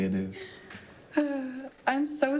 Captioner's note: all laughing